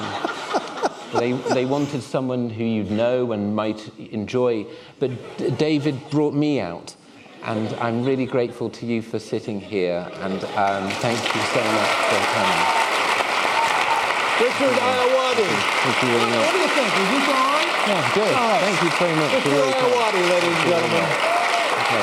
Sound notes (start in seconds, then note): 11.0 applause; 16.8 applause; 21.8 applause